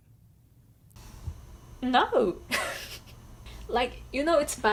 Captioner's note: laughs